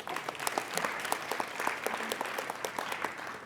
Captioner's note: applauding